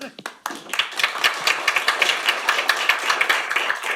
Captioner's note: audience applauds